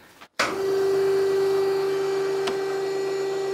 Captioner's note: machine noise